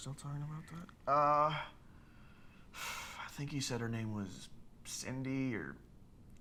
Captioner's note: sighs